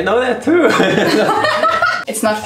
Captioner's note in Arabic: يضحك